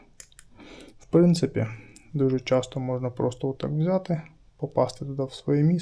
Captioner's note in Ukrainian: сопіння